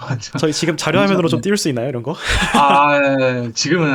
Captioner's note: in a panic